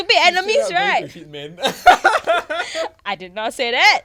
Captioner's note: hysterical laughter